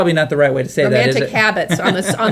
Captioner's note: man laughing